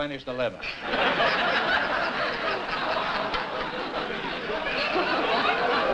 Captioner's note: laughter